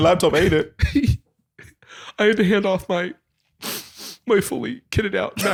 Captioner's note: sniffs